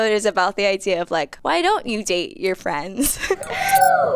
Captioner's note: laughs